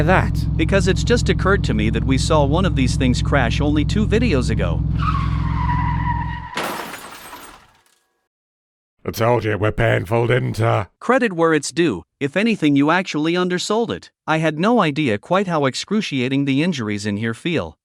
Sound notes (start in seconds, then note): 4.8 brakes squeal, impact; 5.0 shattered glass